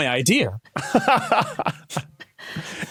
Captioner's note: laughs